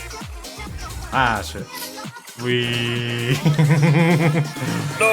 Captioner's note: laughs